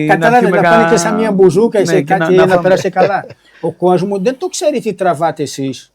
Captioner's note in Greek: γέλια